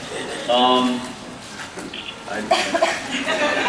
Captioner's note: laughs